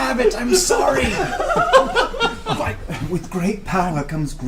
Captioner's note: all laugh